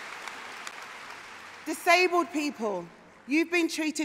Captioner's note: applause